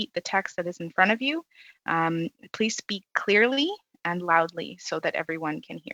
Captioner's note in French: voix de l'interprète